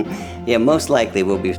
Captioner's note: joyful laughing